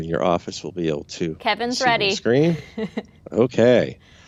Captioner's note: chuckles